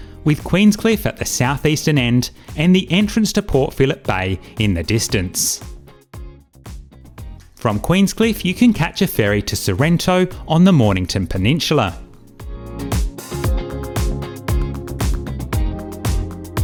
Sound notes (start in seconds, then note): none